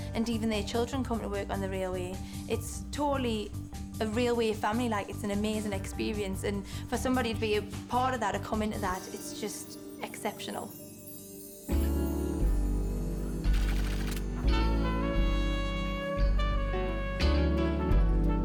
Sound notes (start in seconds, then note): 11.6 mellow jazz music; 13.5 text clicking